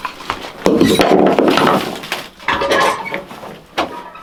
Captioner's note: wood clanking